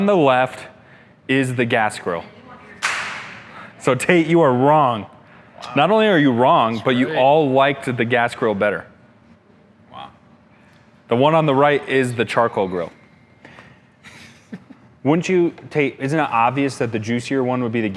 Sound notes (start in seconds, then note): 2.8 slaps hand